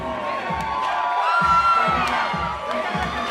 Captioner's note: aplausos